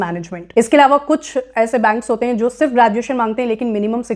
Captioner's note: speaking hindi